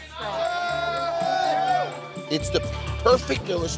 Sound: crowd cheering

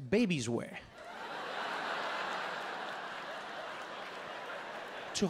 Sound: audience laughing

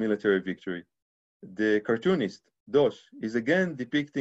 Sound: speaking Hebrew

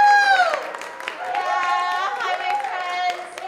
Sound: audience applauding

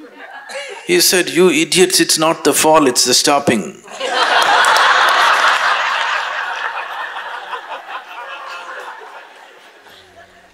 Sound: laughter

